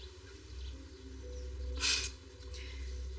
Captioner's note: darark music; chuckles